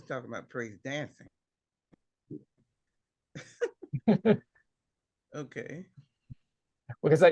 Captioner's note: laughter